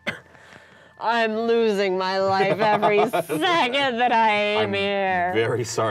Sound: coughs

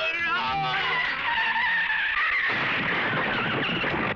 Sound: tires Screeching

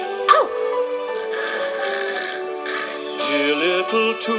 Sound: snoring

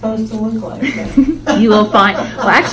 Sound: laughs

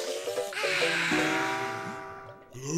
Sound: sighing

